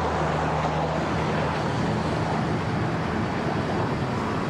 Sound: traffic roaring

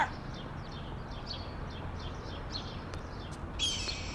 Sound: birds chirping

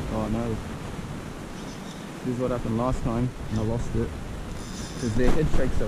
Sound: heavy thumps and fish holding ground

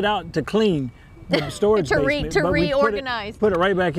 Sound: chuckle

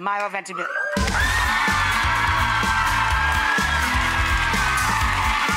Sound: audience cheering and clapping

